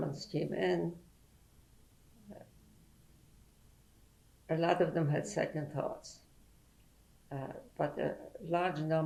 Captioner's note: pauses for 3 seconds